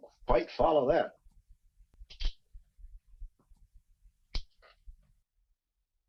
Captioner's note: lighter clicks